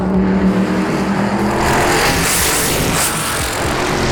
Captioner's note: car revving